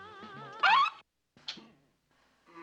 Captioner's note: scratching